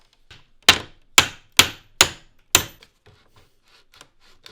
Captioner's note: hammer banging